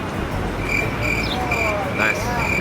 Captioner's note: crickets